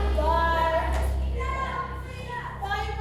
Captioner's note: inmates shouting